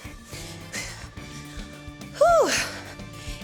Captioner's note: exhales